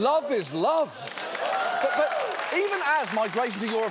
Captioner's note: audience cheering, applauding